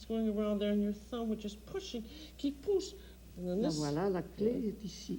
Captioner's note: speaks French